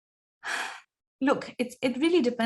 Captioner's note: sighs deeply